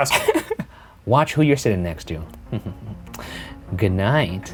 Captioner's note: laughing; chuckling